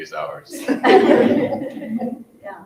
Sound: all laughing loudly

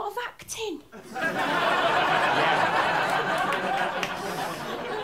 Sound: laughter

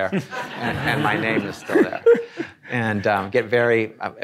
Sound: audience laughing

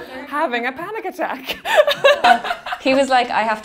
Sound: laughing

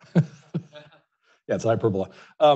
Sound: laughs

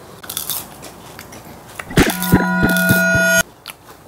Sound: crunching

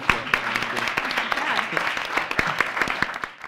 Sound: applause

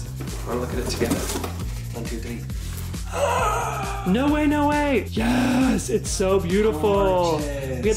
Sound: gasp!

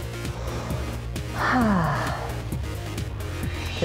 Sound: breathes

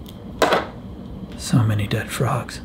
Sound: glasses clattering

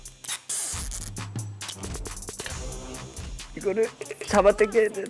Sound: sounds like he's ripping off tape

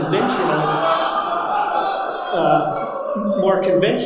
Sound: audience laughing

